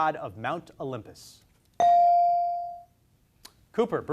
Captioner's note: beep